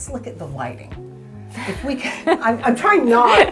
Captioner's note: laughing